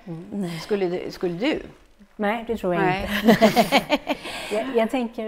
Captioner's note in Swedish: skratt